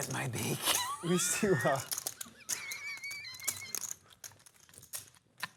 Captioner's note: laughter